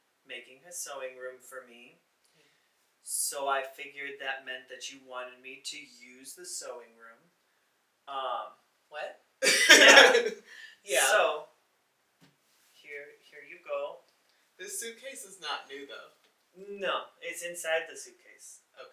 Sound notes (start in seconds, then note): 10.9 laughs